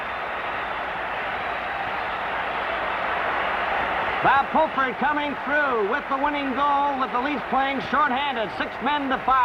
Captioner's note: crowd cheers